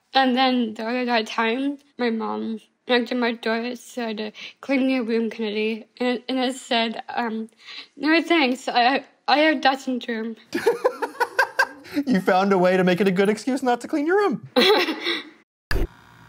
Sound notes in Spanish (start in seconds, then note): 10.5 risas